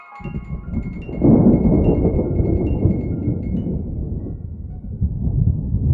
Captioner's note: thunder